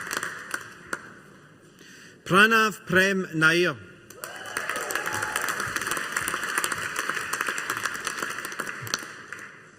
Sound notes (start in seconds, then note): 4.2 audience applauding